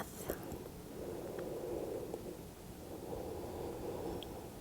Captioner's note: breathing deeply